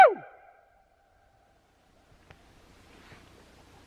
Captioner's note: echoes